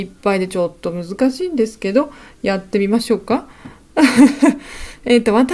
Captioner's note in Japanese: 笑い